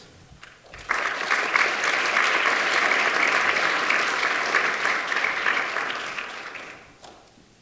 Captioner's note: applause